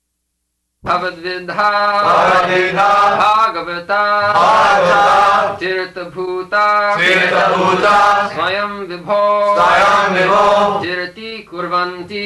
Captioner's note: leads chanting, etc